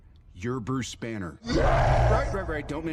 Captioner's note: Hulk roaring